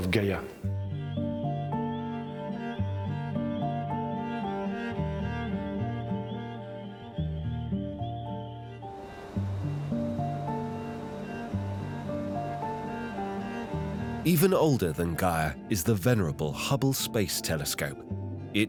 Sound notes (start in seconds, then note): 0.2 soft music; 8.9 machinery whirring